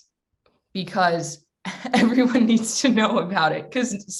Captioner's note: laughs